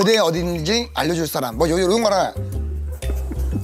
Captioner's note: cracking up